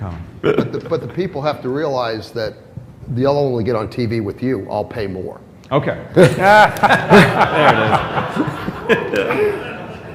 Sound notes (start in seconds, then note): 0.0 laughter; 6.2 laughter